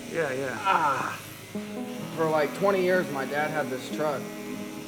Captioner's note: groans